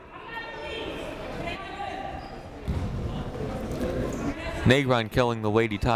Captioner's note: people talking in the crowd